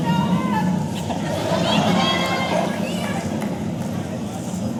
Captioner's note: audience laughing